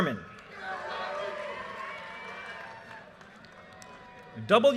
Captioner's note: audience cheers and applause